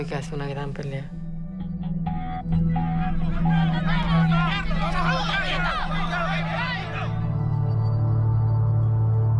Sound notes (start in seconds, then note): 2.6 crowd shouting